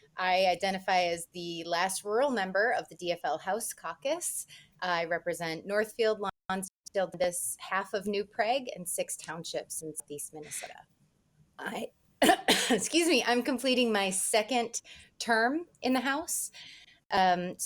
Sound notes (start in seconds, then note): 12.2 coughs